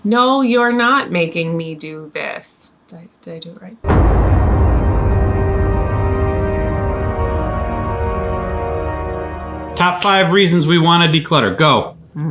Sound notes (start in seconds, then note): 3.8 echo booms; 3.8 ominous music